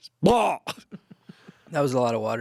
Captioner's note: yells; laughs